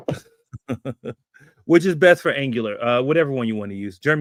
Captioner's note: chuckles